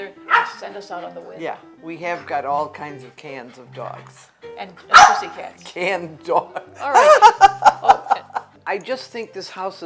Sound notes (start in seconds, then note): 6.4 laughs